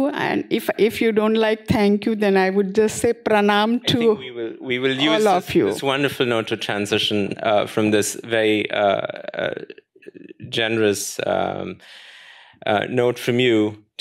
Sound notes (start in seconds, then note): 3.0 non-english